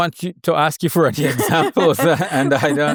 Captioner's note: laughing